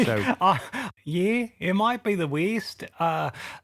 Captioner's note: laughs